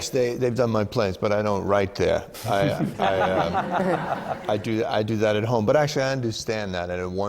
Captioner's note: laughter